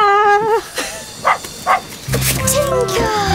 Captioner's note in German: Fröhliches Bellen